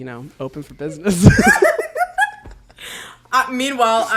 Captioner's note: both laugh